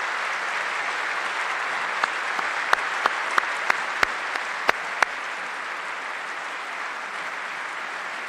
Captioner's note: applause